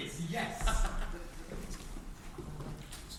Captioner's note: Cornelius laughs